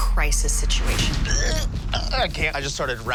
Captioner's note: retches